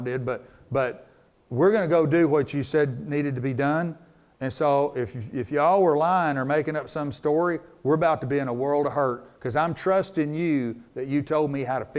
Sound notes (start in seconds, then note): none